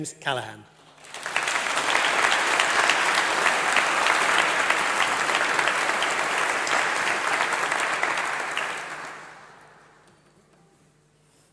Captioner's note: applause